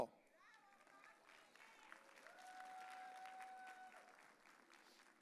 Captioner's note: audience cheering